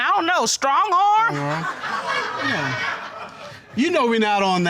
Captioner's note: audience laughing; mumbles